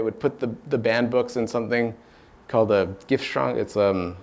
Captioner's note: speaks German